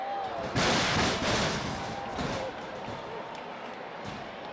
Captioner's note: body thuds